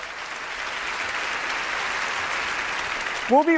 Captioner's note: applause